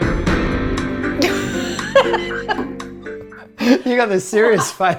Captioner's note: laughing